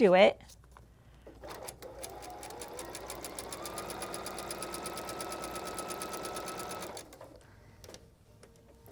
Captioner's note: sewing Machine Whirring